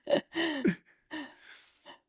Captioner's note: laughing